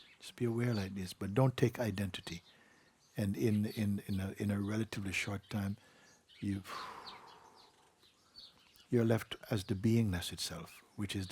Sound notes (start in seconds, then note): 6.6 exhales and signals expansion